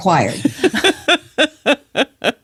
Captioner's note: laughs